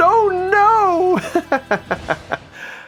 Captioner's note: chuckles